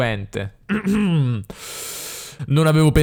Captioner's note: clears his throat